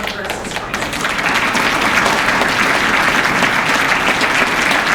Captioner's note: applause